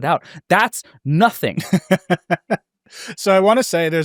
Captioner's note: laughs